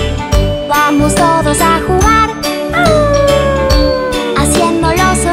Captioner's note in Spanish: Aullido